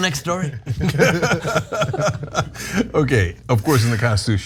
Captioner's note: laugh